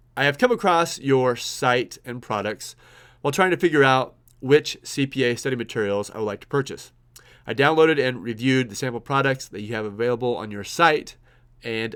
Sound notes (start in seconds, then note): none